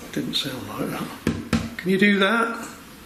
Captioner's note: tapping on window